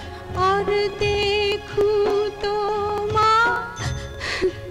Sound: none

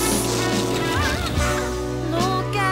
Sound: sounds of cloth ripping

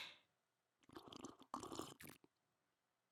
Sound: 국물을 마시는 소리

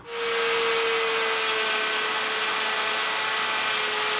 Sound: cutting wood

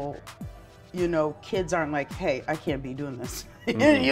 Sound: laughs

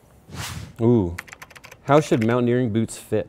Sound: air whooshing; keyboard clicking

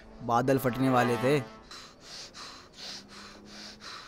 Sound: breathing heavily

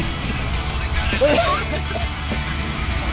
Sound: laughs; coughs

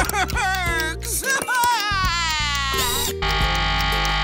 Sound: crying

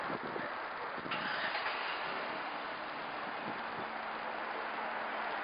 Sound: engine starting

